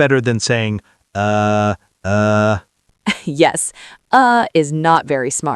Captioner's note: laughs